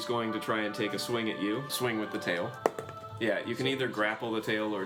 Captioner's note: rolls dice